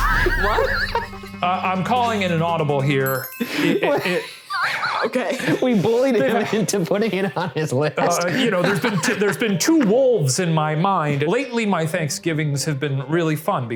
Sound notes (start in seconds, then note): 0.0 laughing; 3.4 laughing